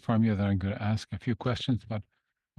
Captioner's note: speaking in French